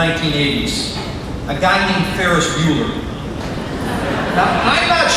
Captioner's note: crowd laughing